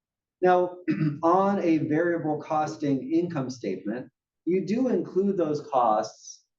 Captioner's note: cough